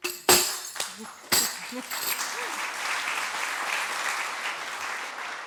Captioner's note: applause